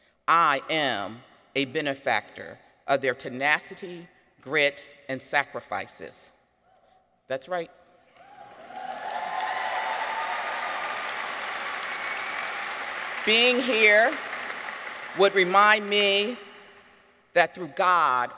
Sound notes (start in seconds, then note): 8.2 audience cheers; 8.2 audience applauds